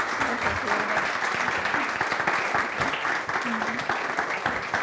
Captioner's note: audience applause